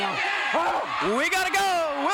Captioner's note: crowd cheers